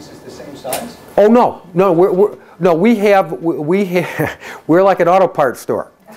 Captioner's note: chuckles